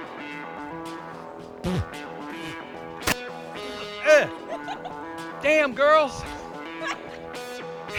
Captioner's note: coughing and Spitting